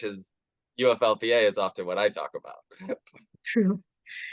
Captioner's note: chuckles